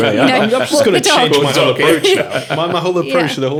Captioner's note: laughing